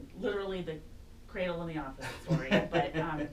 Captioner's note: laughs